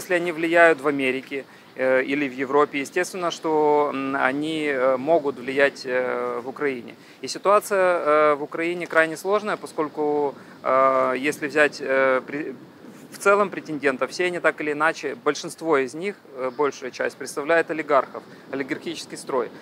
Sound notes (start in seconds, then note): none